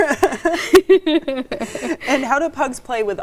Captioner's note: both laughing